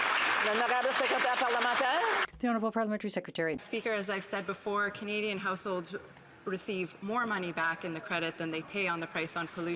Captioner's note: some Applause